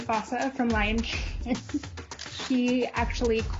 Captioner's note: laughs